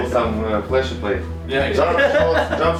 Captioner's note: group laughing